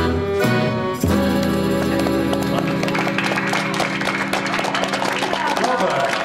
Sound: applause

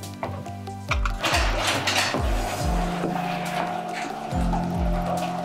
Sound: door rattling

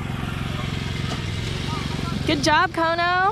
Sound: generator noise

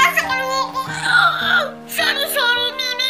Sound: Pillow, muffled; groaning

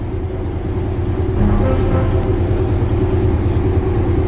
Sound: engines revving

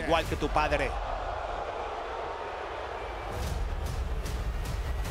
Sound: applause

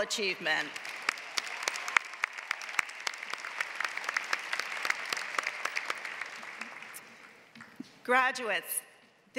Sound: applause

